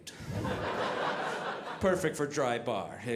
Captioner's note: audience laughing